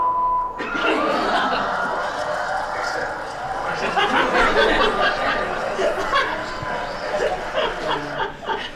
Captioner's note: laughs